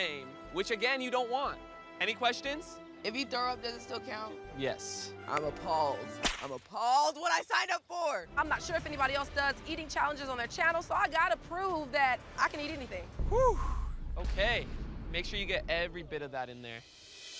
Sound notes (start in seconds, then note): 13.3 sighing